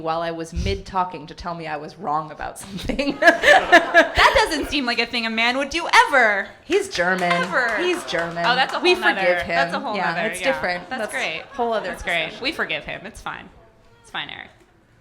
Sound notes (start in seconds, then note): 2.6 laughter; 2.7 audience laughing hysterically